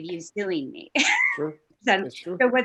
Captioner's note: giggles